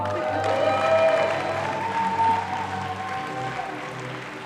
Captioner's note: audience applauding